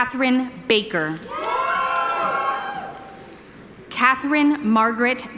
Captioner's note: audience cheering